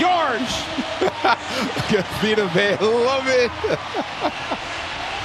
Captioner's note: laughing